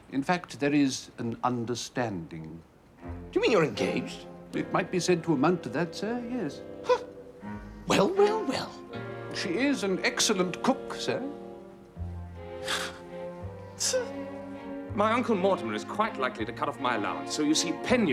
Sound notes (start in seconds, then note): 12.4 huffing